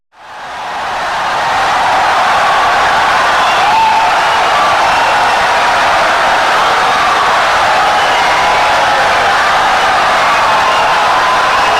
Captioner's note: wild applause and cheering for 17 seconds